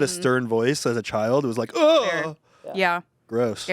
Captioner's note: groans